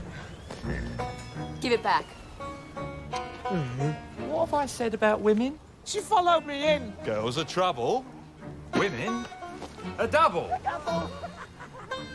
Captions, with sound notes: - GIVE IT BACK. - ( groans ) - WHAT HAVE I SAID ABOUT WOMEN? - SHE FOLLOWED ME IN. GIRLS ARE TROUBLE, WOMEN ARE DOUBLE.